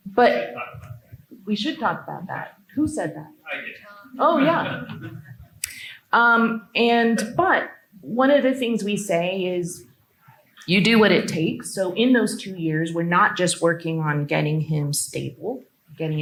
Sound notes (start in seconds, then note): 3.4 laughs